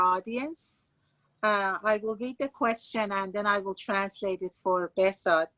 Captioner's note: speaking Farsi